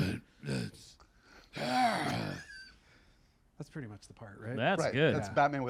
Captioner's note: grunts